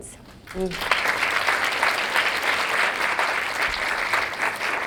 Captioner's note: audience applause